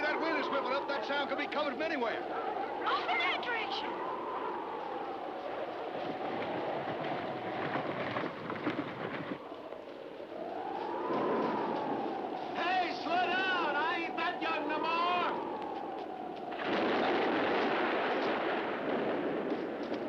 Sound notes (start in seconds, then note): 4.2 wind howling; 16.4 thunder crashing